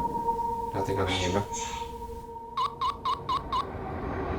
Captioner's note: spirit whispering; spirit whispering; machine beeping